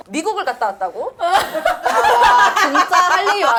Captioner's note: bursts in laughter from the start